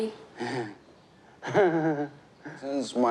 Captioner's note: chuckles softly, laughs